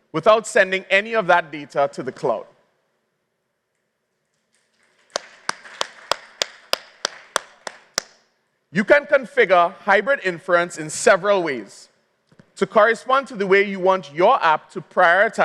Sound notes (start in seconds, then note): 4.7 applause